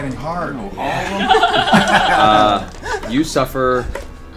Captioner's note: all laugh